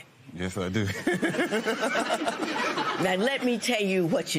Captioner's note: laughs